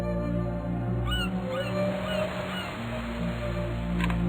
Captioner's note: waves crashing, seagulls crying